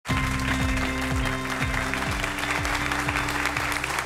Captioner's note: applause